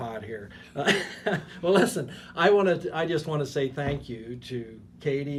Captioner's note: laughing